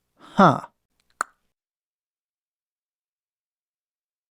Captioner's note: clicks tongue